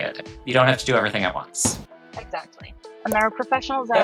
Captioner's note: text thudding